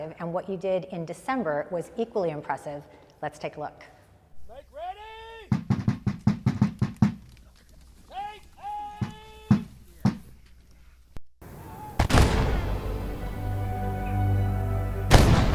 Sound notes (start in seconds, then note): 5.5 drum beating; 11.4 cannons firing